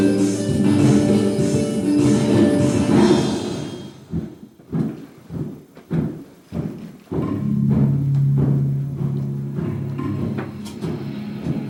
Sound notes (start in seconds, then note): 3.5 music stops; 4.0 thudding sound; 7.3 ancient sound starts playing